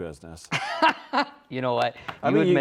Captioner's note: laughs